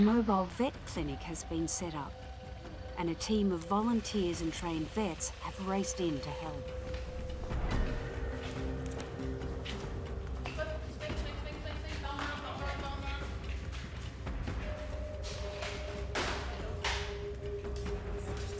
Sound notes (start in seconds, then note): 6.8 dramatic music; 10.7 veterinarian shouts; 14.5 dramatic music